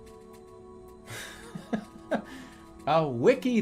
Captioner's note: bursts out laughing